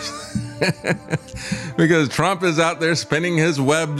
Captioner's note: laugh